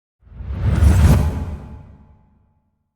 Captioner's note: swoosh